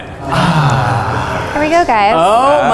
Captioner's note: sighs in pleasure